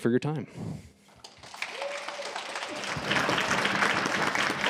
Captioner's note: applause